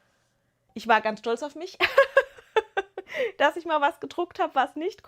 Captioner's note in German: gelächter